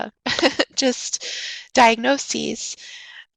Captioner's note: chuckles